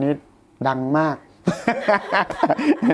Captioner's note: laughs